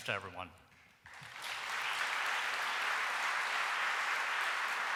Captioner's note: audience applauding